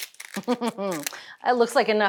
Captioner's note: Julia Chuckles